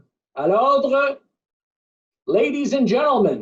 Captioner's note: speaking French